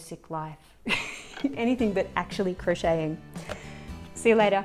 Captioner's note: laughs